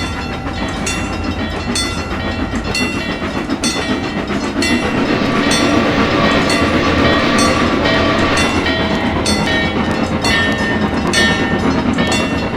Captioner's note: MEC J Class whistle, locomotive bell ringing